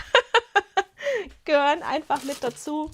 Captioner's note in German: Gelächter